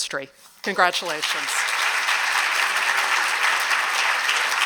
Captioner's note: applause